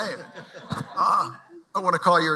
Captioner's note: laughter